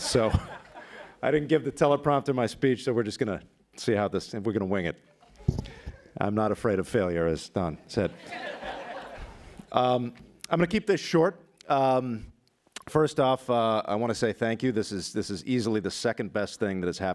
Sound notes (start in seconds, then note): 8.0 laughter